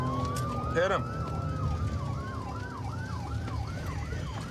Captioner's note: sirens wailing